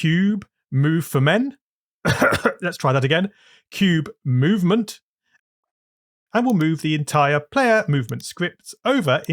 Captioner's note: cough